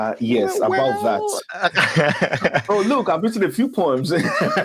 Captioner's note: laughs